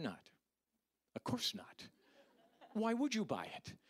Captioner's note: audience laughing